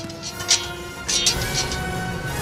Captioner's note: sword scrape; sword strike